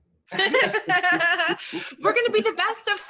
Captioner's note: laughing